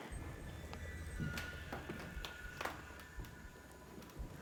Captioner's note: footsteps